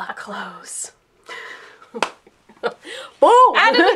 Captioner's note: laughter